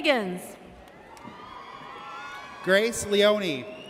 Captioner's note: audience cheers